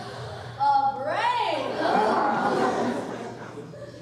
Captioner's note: all gasping in anticipation; all sighing and groaning